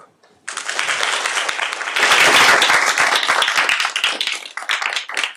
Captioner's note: applause